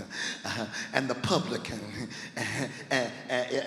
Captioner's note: laughs